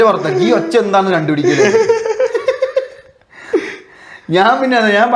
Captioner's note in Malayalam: പൊട്ടിച്ചിരി